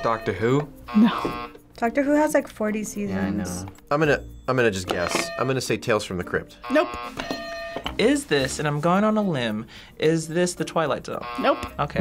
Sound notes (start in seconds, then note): 6.6 buzzer rings; 6.6 bell rings